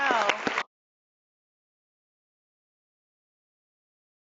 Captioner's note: audience clapping